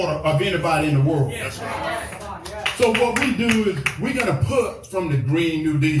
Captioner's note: applause